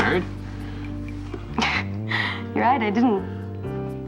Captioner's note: chuckles